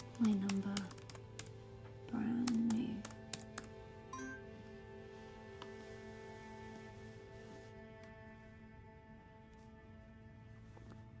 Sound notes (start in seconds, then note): 4.0 laptop chimes; 7.2 sparse tense music continues